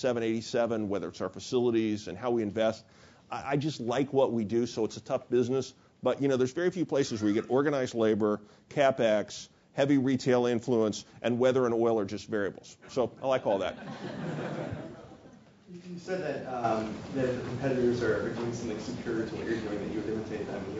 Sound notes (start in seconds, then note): 13.6 laugh